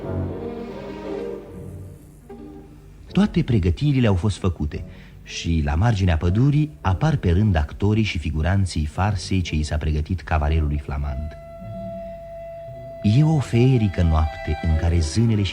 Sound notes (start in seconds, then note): none